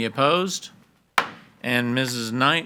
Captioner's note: hammer slamming